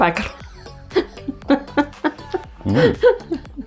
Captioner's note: laughs in Lithuanian